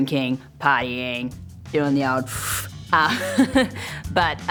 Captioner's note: chuckles; inhales